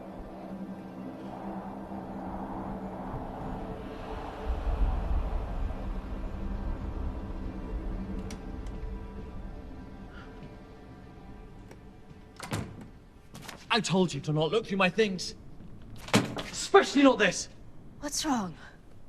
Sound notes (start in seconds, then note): 3.4 icy wind